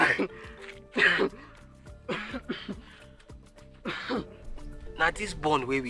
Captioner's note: coughing